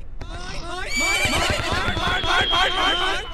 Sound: surprised whinnying

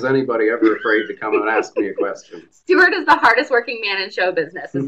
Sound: laughs

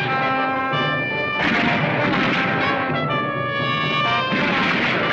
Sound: gunfire continues

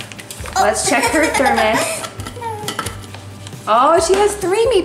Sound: laughing

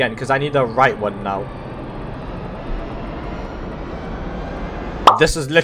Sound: wheel noises

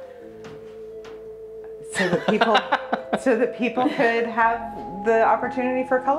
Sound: laughs

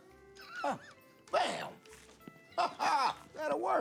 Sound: laughs

